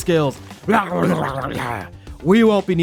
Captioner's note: growling